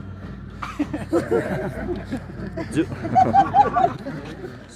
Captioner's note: laughter